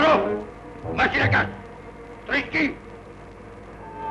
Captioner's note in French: langue étrangère